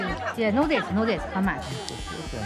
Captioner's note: speaking foreign language